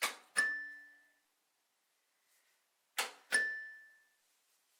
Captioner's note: bell dings